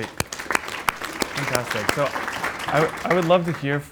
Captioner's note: audience applauds